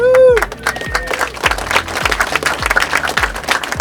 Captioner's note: applause